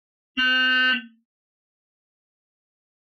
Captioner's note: horn honks